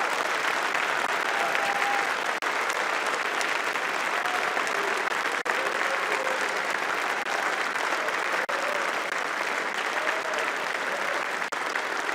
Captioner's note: applause